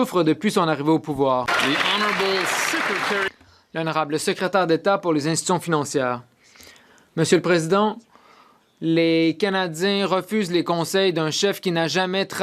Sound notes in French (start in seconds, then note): 7.2 voix de l'interprète